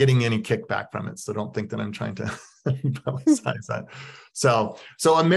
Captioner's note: laughs